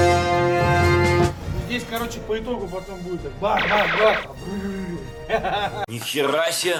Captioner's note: giggles